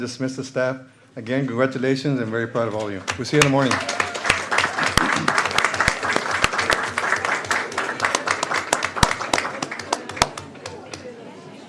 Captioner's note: applause